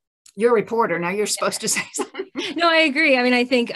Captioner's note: chuckles